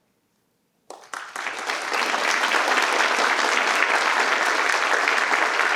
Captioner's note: participants applaud